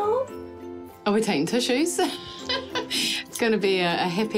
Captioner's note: laughs